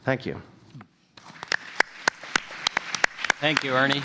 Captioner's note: applause